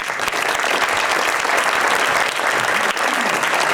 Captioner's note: applause